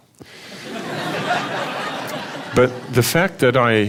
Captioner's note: laughter